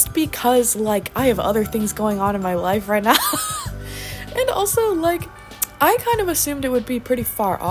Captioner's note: laughs